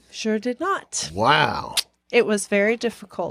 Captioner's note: none